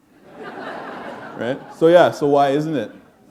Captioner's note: laughter